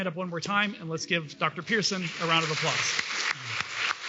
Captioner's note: applause